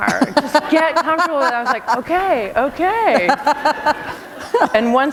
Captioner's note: laughter